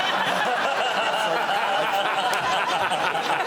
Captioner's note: laughter